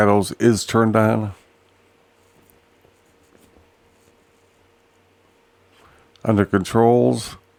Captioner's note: silence